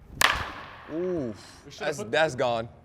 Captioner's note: sound of bat hitting baseball